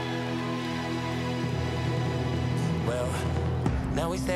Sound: applause

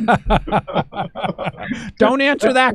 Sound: laughing

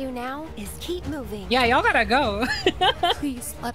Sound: laughter

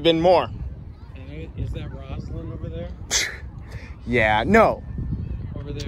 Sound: guffaws

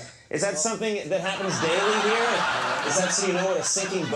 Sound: crowd laughs

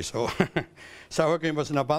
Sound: chuckles

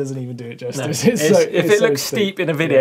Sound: laughs

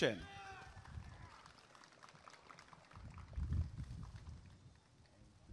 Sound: applause and cheering

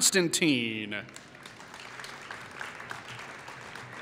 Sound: applause

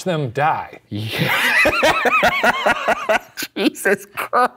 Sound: laughing

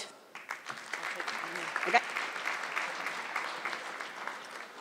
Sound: audience clapping

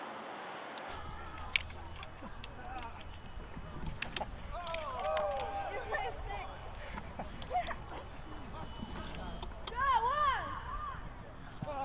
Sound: laughing, cheering, and yelling

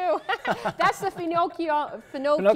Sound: laughing

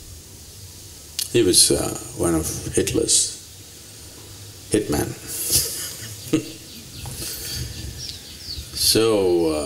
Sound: laughs

